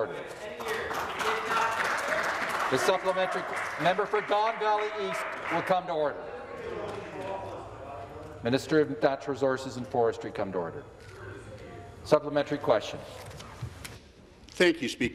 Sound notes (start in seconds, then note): 3.4 some Applause